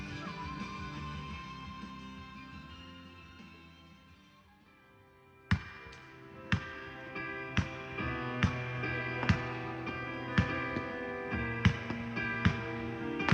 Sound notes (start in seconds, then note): 5.5 gentle music; 5.6 firecrackers booming